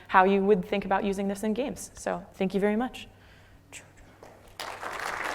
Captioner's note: applause